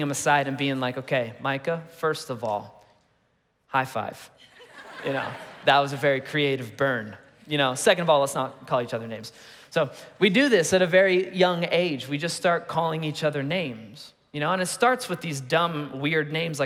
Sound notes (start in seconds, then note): 4.4 congregation laughing